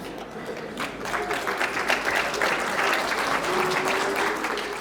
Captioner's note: applause